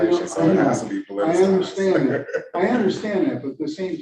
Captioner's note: laughing